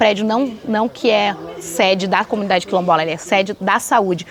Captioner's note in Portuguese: vozerio ao fundo